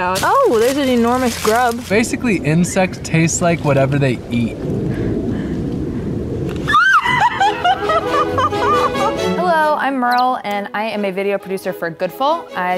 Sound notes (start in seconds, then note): 6.5 bites into grub; 6.8 laughing; 7.4 squeals; 8.0 upbeat music